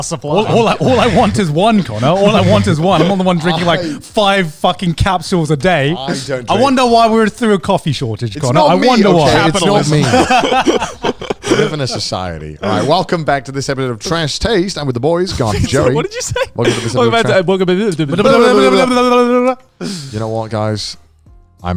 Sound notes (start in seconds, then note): 8.4 all laughing; 16.8 all speaking gibberish